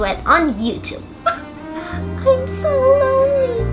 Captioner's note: sobs